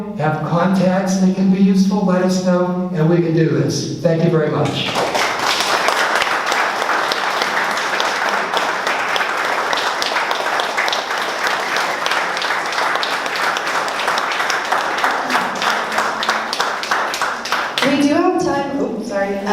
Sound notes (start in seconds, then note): 7.5 applause